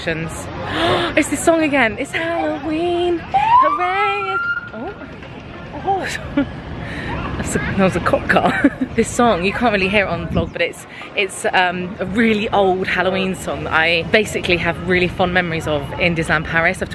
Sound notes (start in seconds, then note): 0.7 gasping; 1.9 singing; 3.3 siren wailing; 7.9 laughing